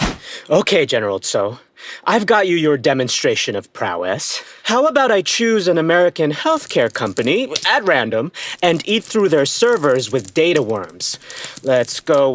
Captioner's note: sound of returning to the government bunker; typing